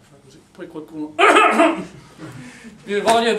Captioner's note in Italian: colpo di tosse